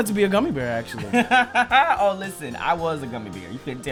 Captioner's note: laughter